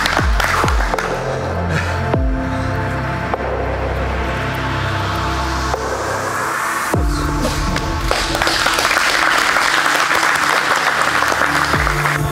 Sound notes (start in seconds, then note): 1.2 breathing heavily; 7.5 spectators applauding